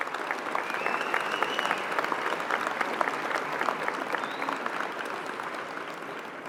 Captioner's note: applause